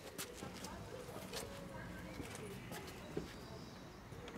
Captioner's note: distant voices, birds chirping